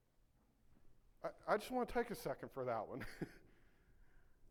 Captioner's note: laughs